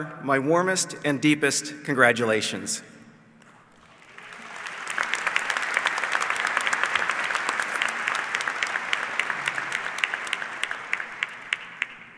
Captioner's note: applause